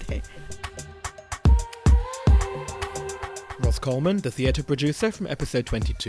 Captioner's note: voiceover